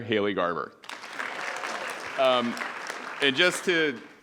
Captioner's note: audience applauding